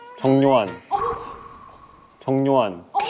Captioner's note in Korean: 제작진의 화들짝 놀라는 소리